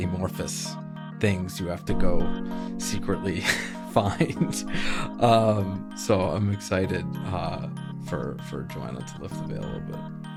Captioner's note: laughs